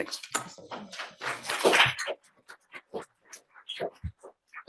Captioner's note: attendees clapping